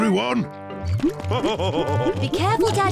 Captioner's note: laughs